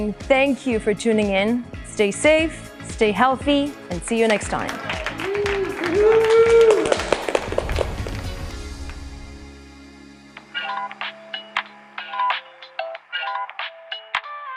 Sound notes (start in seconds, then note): 4.3 audience applauding and cheering; 10.3 bright electronic music